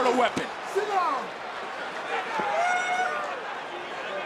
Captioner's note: audience cheering